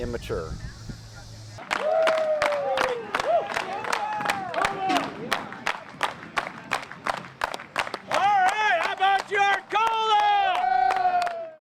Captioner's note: clapping